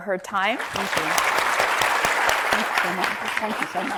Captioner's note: audience applauds